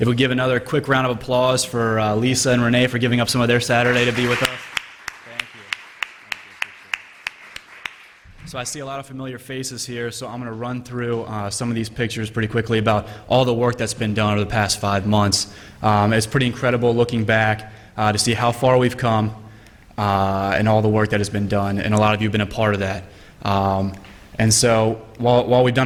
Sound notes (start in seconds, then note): 3.4 applause